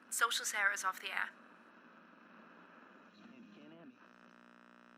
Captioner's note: static buzzing